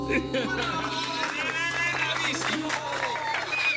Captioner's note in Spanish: Aplausos